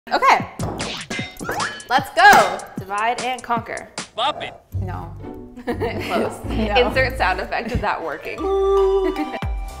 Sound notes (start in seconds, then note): 2.1 banging noises; 5.6 nervous laughter; 9.3 intro music plays